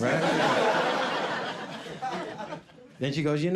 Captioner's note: audience laughing